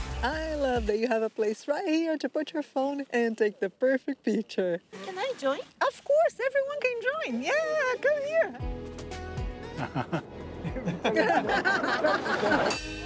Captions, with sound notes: I love that you have a place right here to put your phone and take the perfect picture. - Can I join? - Of course everyone can join. Yeah, come here. [laughs]